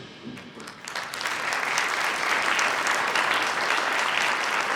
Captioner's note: audience applauds